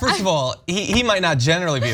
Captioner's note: laugh